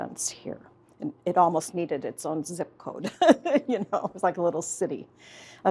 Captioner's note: laughs